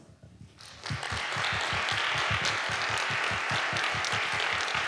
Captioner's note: audience applauding